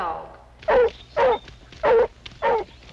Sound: barking

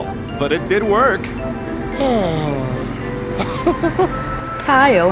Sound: sighs, then chuckles

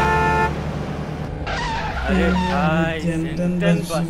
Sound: squealing of brakes sound

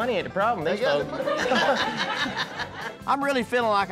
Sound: laughter

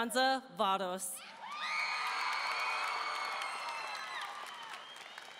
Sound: audience cheering

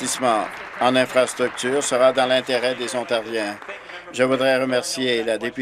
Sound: applause

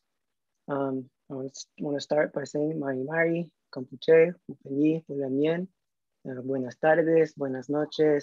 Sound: non-english speech

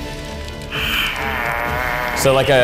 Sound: groans

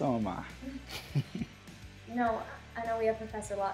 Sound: chuckles

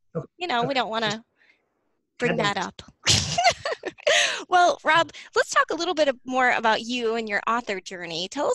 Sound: laughs

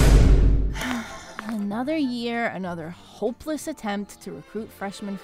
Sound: sigh

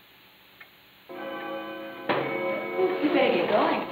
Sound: clock chiming

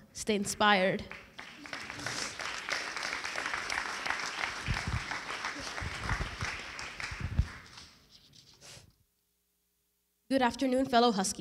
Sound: applause

